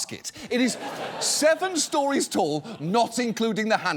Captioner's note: audience laughs